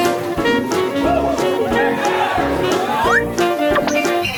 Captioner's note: crowd Cheering